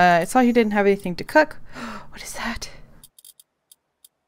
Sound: gasp

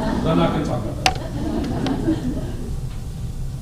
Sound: laughter

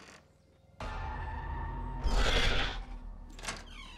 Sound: dinosaur growls

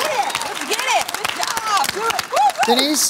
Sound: applause

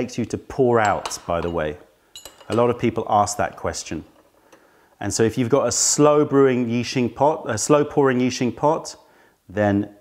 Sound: pouring

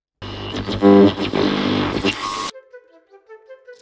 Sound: static sound; curious music

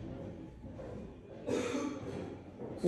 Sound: random stranger coughs

